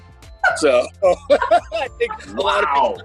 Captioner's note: all laughing